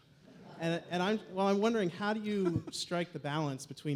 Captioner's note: Crowd laughs, Venter chuckles